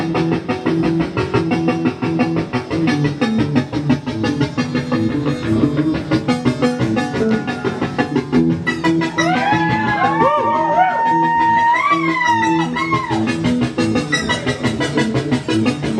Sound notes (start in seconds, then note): 0.1 upbeat music; 9.1 crowd cheering